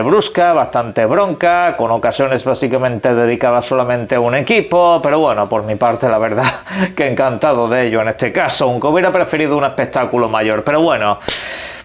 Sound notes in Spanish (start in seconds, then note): 6.4 risas